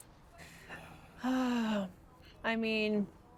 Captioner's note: sighing